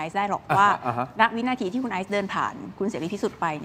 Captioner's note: laughter